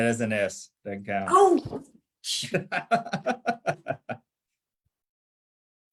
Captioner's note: laughter